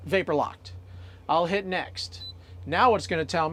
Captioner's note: beep